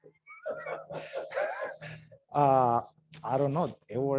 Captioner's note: laughs